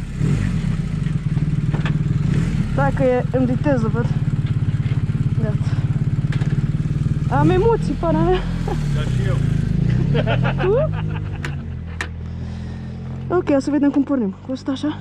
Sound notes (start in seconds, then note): 9.8 nervous laughter